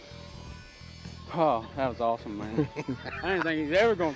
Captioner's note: laughs